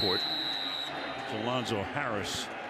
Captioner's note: whistle